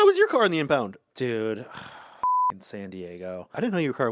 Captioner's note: beep